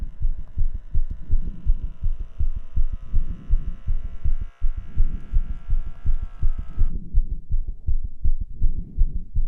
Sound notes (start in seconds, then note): 1.7 blood pressure cuff buzzing